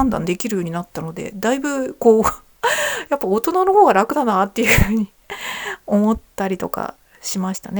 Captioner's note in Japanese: 笑い; 息をのむ音